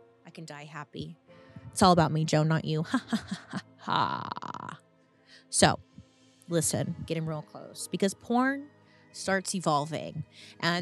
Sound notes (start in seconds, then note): 2.8 laughs